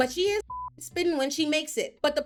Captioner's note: beep